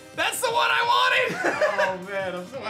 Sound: chuckles

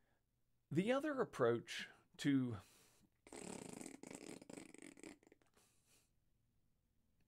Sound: makes a raspberry noise

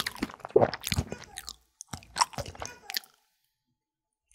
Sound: cough knock

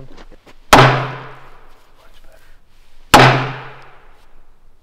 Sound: bang, bang

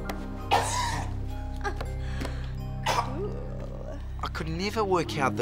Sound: choking, coughing

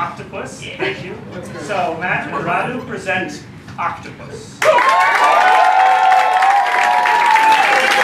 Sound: applause

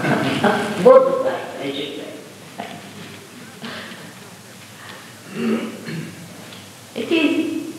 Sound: laughs

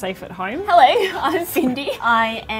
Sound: chuckles

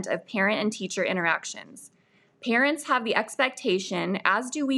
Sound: none

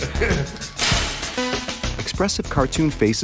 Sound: gasps; chuckles; clattering

